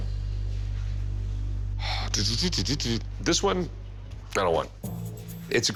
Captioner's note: sigh